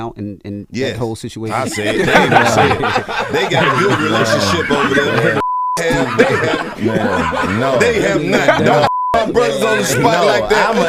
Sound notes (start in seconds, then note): 1.7 everyone laughing; 5.3 beep; 8.6 beep